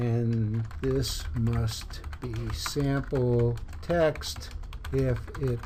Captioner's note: typing